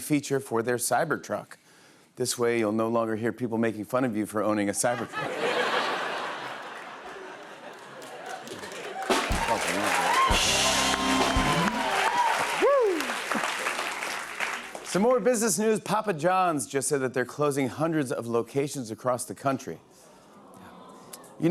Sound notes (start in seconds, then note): 4.8 laughter; 10.5 cheers and applause